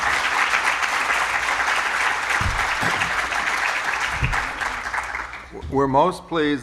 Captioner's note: applause